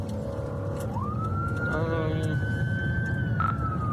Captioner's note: siren wailing